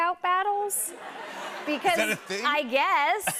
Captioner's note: laughter